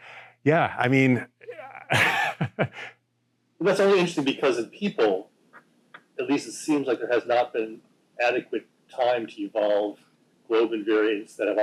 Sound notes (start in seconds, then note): 1.5 chuckles